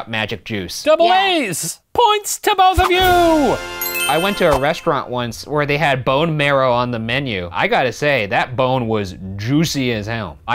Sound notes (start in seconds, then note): 3.4 ding